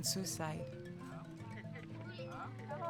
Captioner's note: chattering